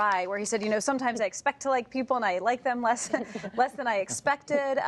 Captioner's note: laughter